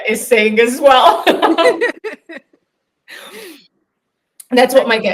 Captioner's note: both laughing